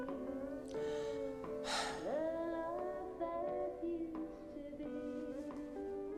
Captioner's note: sighs